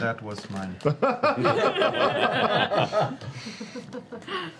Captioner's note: laughter